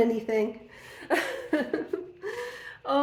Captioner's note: laughing